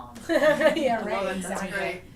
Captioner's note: laughter